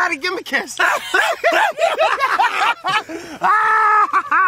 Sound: laughing

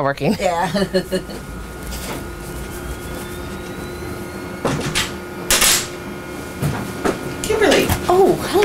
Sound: laughing and Background Noise

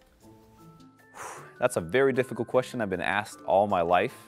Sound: exhales

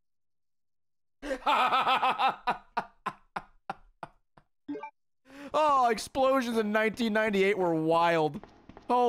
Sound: laughs

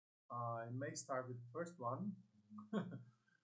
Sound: laughs

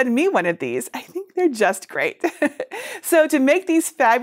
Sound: chuckles

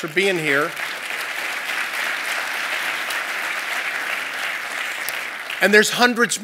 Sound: applause

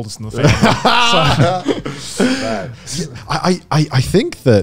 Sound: laughing loudly

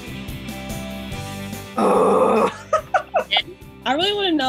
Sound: laughter

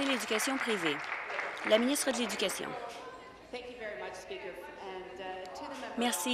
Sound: applause

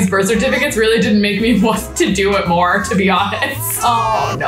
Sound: laughs

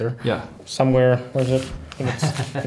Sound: chuckling

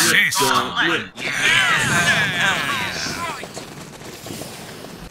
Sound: cheers excitedly

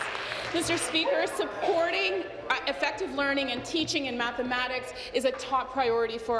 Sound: applause

